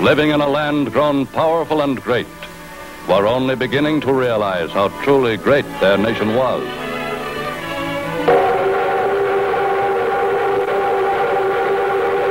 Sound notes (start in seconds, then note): 8.1 train whistle blows